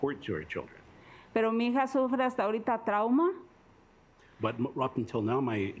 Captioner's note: speaking Spanish